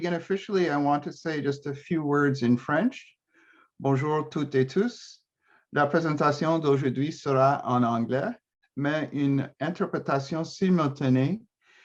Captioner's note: speaking in French